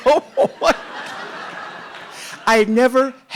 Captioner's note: audience laughing